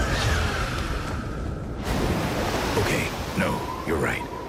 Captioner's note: tires squealing; water splashing loudly